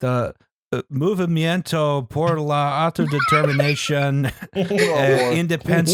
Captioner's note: laughter